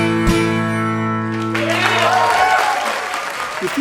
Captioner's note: applause